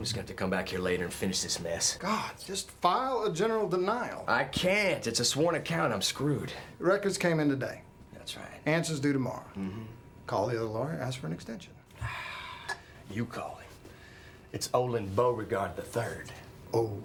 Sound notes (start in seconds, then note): 12.0 exhales loudly